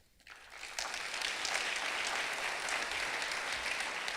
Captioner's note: clapping